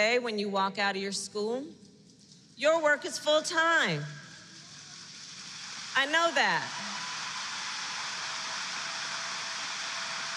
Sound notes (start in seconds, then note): 4.3 applause